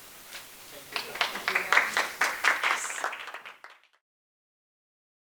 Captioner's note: applause